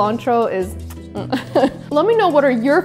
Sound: chuckles

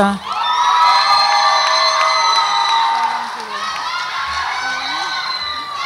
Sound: audience applauds and cheers

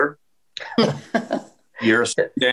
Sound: chuckles

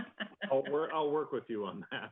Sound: laughter

